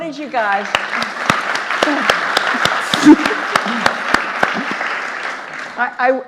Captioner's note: audience applauding